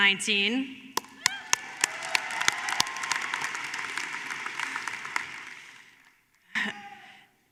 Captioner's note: applause